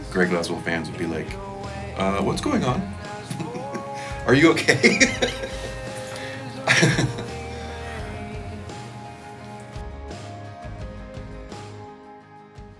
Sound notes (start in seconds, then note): 5.4 laughing; 8.3 light music